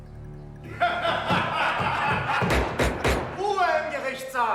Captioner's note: laughter